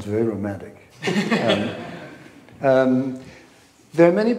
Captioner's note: laughing